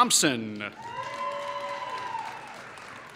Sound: applause

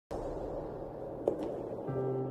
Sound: echoed footsteps

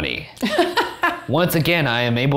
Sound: laughs

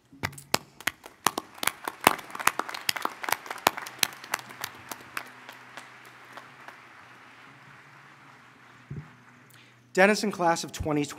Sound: applause

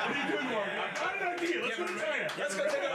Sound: laughter

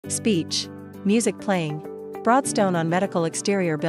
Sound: speech

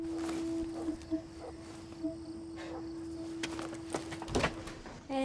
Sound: distant dog barking

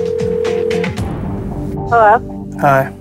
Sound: phone rings

